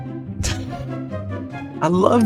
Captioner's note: laughing